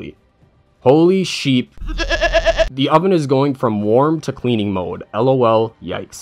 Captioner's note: baa-ing noise